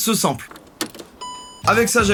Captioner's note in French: Son de démarrage